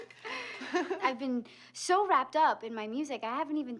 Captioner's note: laughs